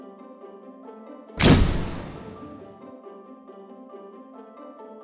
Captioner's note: cheerful music continues; flash bulb crashes